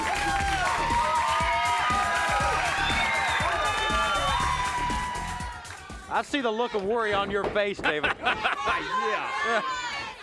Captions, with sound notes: (audience applauds) I see the look of worry on your face, David. Yeah.